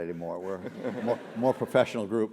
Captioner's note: laugh